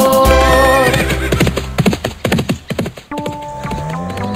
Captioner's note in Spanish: Sonido de relincho y galope